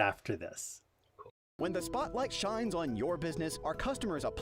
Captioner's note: voiceover